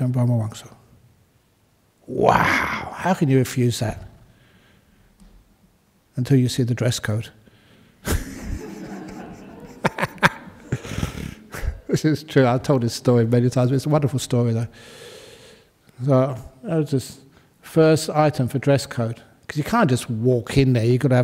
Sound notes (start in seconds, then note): 8.0 laughter